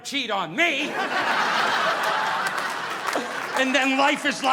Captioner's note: audience laughing